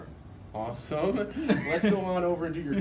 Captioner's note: laughs